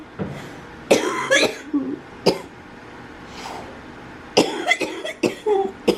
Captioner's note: coughing